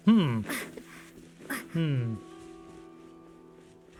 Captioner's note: gentle music; grunting; gentle music